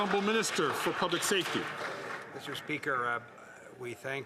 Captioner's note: some Applause